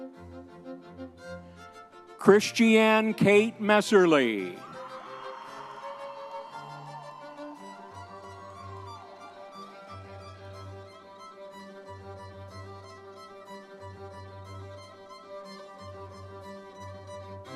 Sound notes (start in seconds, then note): 3.6 audience members cheering; 8.9 classical orchestral music continues